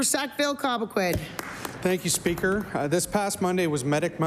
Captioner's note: applause